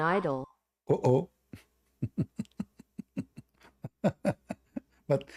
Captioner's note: Ketawa